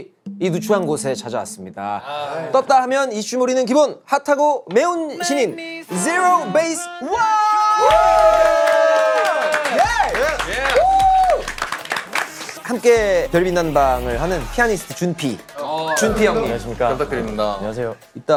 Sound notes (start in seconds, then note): 7.1 scream~